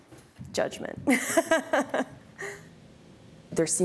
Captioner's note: laughs